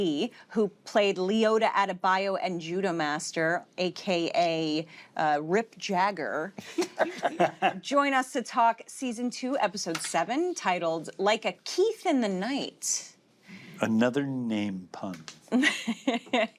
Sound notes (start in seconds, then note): 6.7 all laugh; 15.5 chuckles